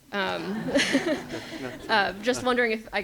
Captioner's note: people laugh